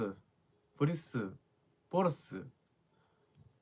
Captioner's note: dialect